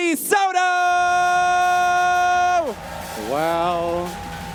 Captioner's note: audience cheers